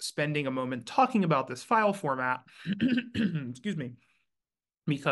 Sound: clears throat

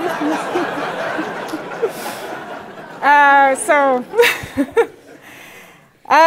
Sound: laugh

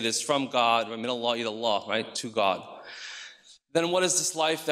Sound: speaks in foreign language

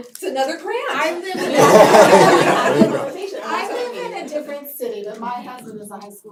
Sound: laugh

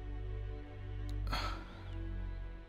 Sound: sighs

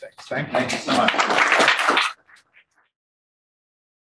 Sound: room applauds

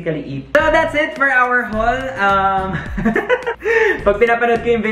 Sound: laughs

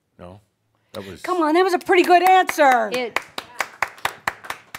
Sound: claps

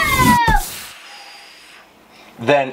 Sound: magical cauldron poof

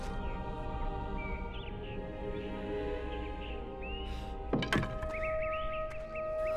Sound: birds tweeting; dramatic choral music

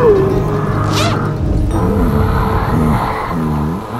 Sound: zipper unzips

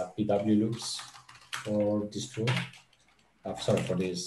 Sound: keyboard clattering

